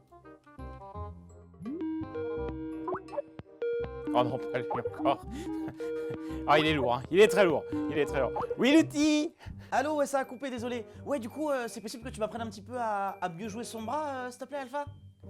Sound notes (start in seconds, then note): 1.9 Skype ringtone